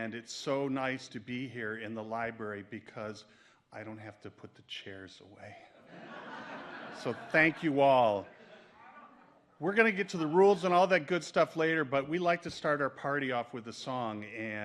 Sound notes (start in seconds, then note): 5.8 audience laughs